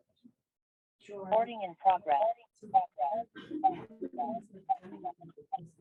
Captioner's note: computer Voice